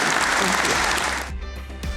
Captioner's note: audience applauding; uplifting instrumental music